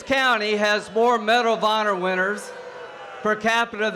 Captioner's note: boos and cheers